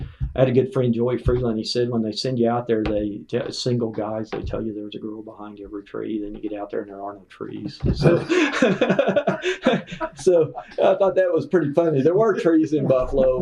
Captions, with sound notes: I had a good friend, Joey Freeland, he said when they send you out there, single guys, they tell you there’s a girl behind every tree. Then, you get out there and there are no trees. (Laughter) So, I thought that was pretty funny. There were trees in Buffalo.